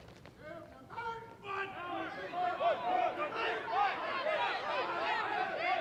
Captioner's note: troops answer, shouting